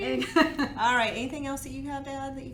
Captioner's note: giggles